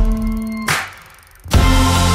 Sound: bicycle chain spinning; upbeat music

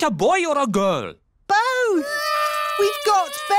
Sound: babies cry

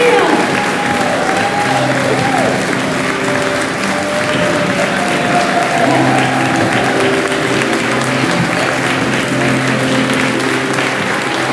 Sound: applause

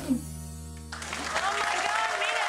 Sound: audience clapping

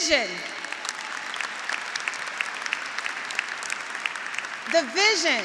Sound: graduates applauding

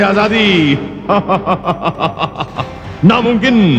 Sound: evil Laugh

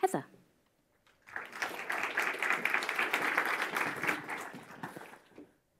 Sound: audience applauding

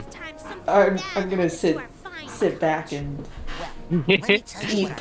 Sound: chair creaking

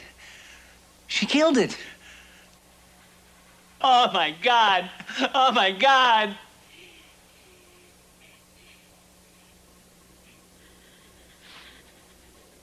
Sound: crying

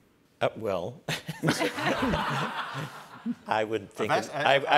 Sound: laughter

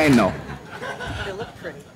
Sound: laughs, cheers

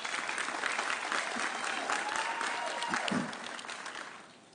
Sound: audience cheering

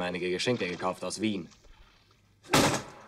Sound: in German; in German

